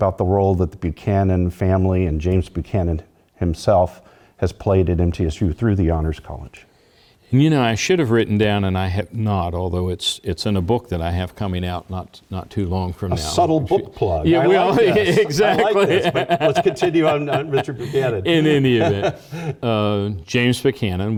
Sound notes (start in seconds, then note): 14.2 laugh